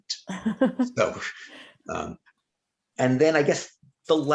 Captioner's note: chuckling